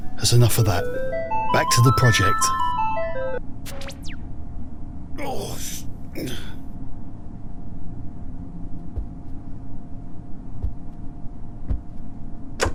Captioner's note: old man noises